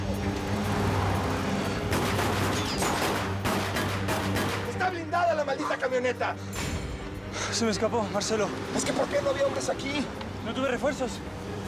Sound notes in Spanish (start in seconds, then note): 1.7 sonido de un auto; 1.7 continúa la balacera